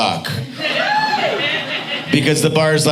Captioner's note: audience cheering